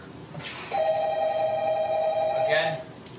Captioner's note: phone ringing